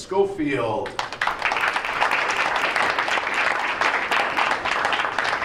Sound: crowd applauds

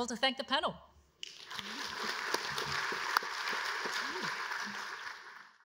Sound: applause

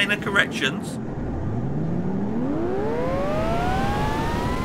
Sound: engine whirs

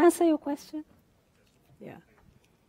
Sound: voiceover

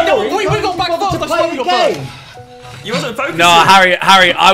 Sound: students murmurs

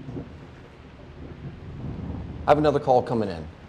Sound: thunder rumbling

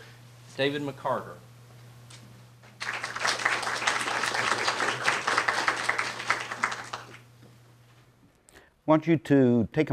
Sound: applause

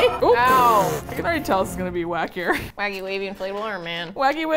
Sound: groans; laughs; sputters

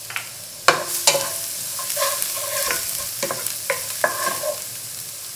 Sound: spoon stirring

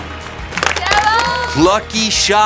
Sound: cheering

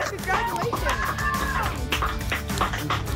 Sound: applause

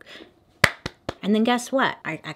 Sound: claps

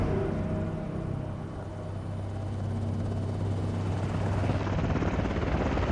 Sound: helicopter rotors spinning

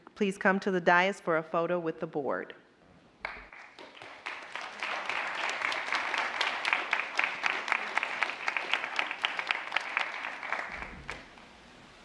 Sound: applause

